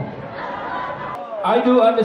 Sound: laughter

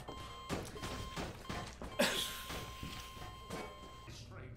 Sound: frustrated/exasperated half-laugh 2

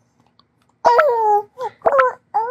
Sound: sighing

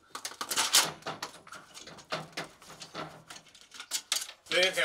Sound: metal sheet clangs

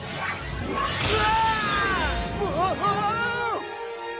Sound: screaming

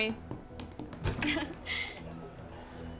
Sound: chuckles

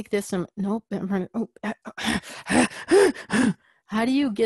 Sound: frustrated noises

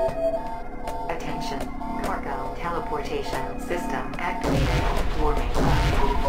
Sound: female a.i. voice

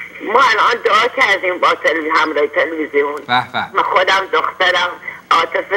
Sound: speaking foreign language; speaking in foreign language

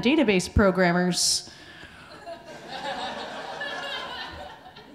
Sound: audience laughing

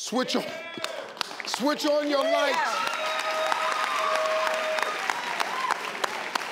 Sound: audience claps

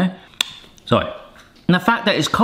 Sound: smacks lips

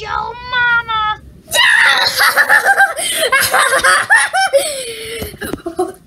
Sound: laughing

